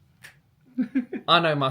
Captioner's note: snaps fingers sassily